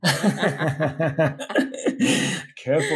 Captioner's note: laughing together